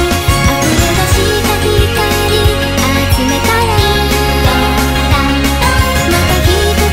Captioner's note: ding dong dang dong